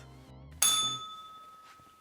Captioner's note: bell rings